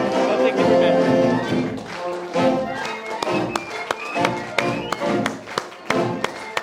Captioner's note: applause